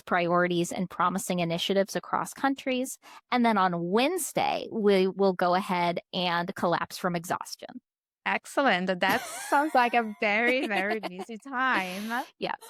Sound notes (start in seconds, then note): 9.0 laughs